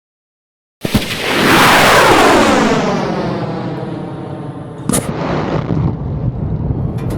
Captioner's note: rocket launch